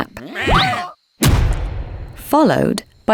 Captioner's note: sheep bleating; men shouting; loud booming